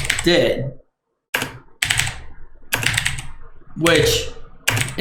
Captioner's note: keyboard clicks